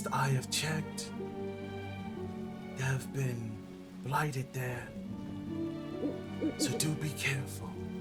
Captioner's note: owl hoot hoot